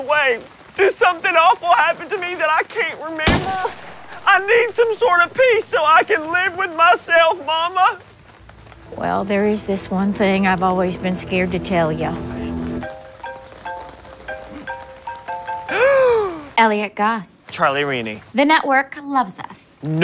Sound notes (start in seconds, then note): 12.6 phone rings; 15.7 elliott gasps